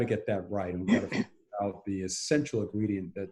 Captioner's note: clears throat